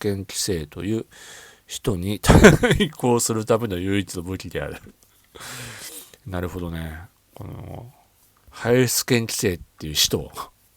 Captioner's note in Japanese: 笑い